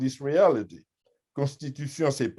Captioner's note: french